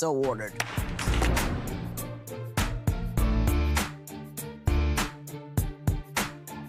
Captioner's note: upbeat music; gavel cracks